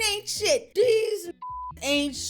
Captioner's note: beep